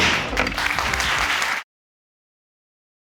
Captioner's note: audience applauding